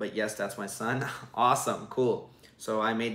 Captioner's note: chuckles